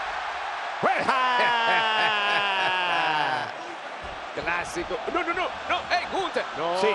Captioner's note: laugh